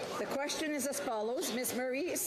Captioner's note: speaking French